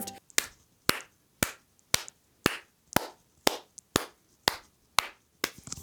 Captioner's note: clapping